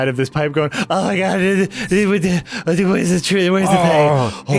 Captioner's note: scared muttering